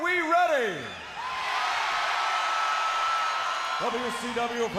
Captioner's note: crowd cheering